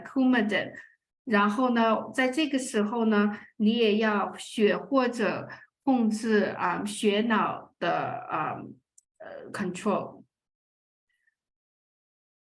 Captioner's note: speaking chinese